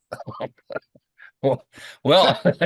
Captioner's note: laughing